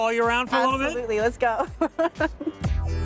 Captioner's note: laughs